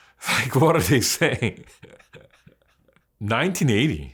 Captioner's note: laughs